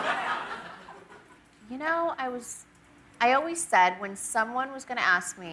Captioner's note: laughter